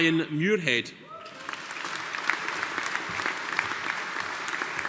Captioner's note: audience applauding